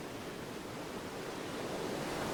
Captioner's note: waves